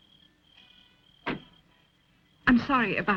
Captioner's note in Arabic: طرق الأبواب